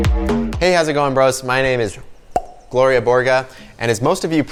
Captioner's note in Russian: чпок